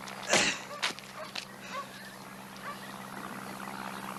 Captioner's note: dogs barking